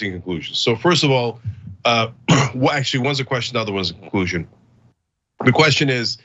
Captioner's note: cough